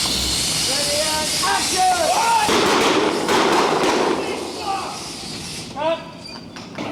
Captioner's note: explosions and Duke yelling lines